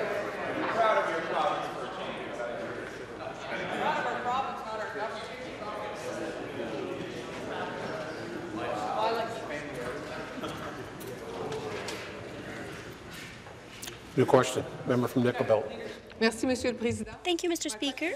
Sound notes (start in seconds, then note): 4.7 conversation din